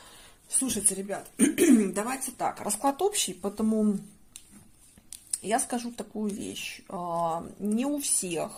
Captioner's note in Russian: откашливается